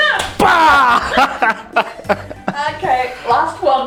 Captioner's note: laughs